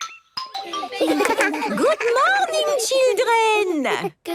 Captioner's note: laughter